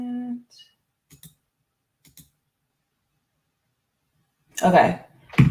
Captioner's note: mouse clicking